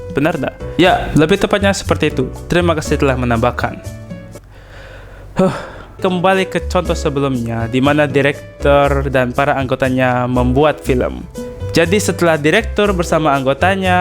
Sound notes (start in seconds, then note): 4.6 sigh